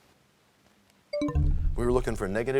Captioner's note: bell chimes, time expires